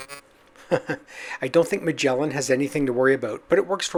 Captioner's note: chuckles